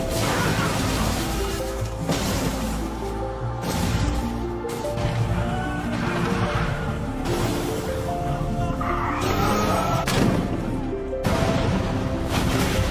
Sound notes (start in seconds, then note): 6.0 bright ethereal music; 6.0 fire rumbling; 11.2 explosions booming; 12.5 bright ethereal music